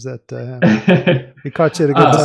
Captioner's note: laughs